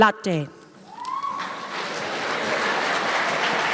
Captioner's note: applause, cheers